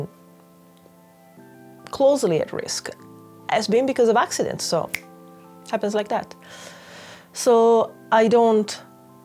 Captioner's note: click fingers